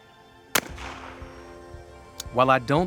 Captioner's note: shotgun bangs